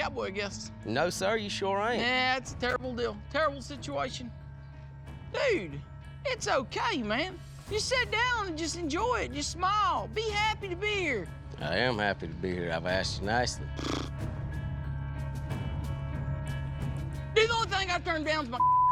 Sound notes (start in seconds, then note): 13.7 blows raspberry; 16.0 tense music